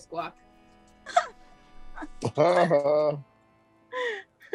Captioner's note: laughs